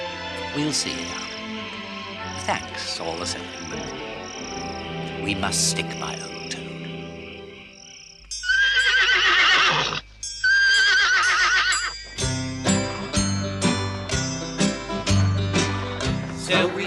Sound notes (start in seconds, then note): 8.4 Alfred neighs